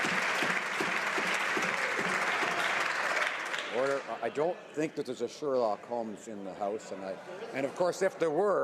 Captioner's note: some Applause